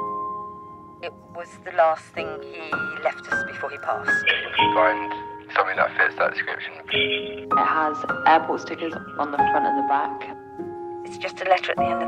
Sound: woman and a man voice talking over the phone

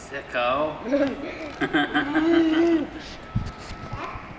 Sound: laughs

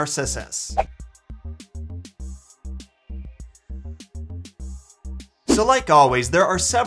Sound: chill music; transition whooshes

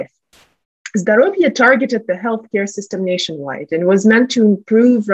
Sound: russian

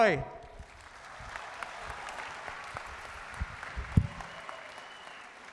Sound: audience applauding

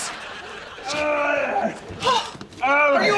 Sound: groaning

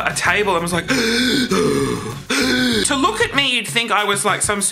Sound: gasping

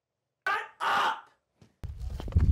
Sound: voiceover

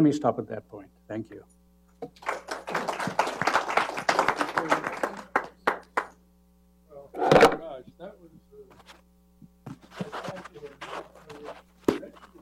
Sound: applause

